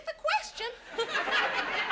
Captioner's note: audience laughs